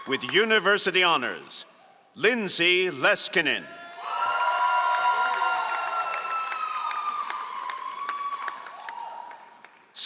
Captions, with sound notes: With University Honors Lindsay Leskinen. (all applauding)